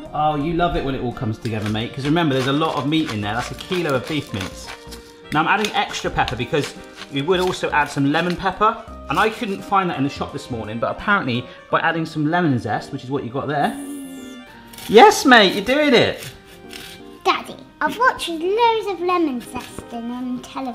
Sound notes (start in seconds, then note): 13.5 purrs excitedly; 14.4 lemon rasps on grater